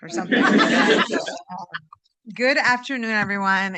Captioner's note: laughter